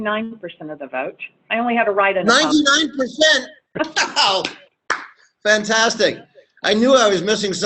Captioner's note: claps